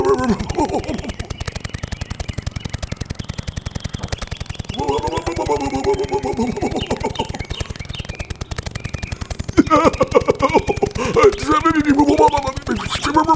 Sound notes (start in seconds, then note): 1.3 snapping